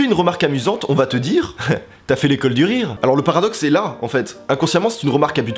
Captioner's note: laugh